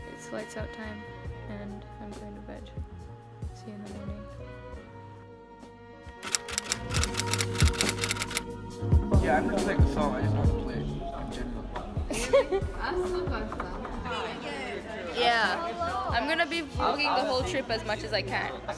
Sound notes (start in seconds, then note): 6.1 typewriter Clicks; 12.0 laughter